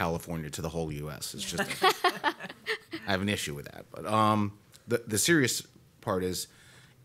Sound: laughter

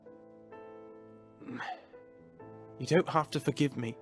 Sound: Sirius growls in frustration

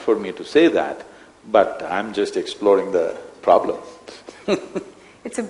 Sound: laughs

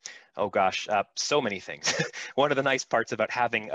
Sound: laughs

